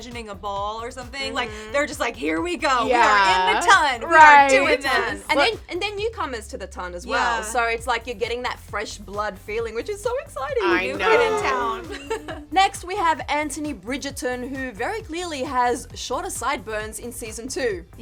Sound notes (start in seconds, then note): 11.4 chuckles